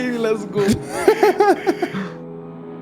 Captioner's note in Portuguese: risada